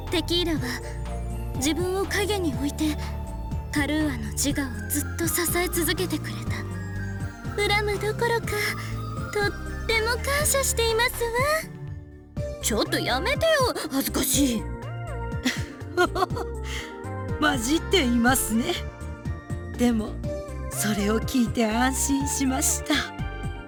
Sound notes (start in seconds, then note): 15.4 chuckle